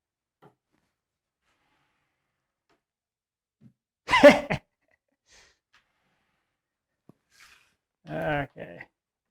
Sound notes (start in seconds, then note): 4.1 laughing